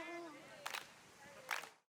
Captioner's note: rhythmic clapping